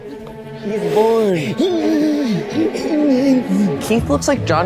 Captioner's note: strains